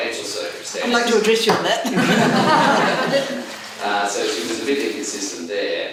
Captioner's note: laughing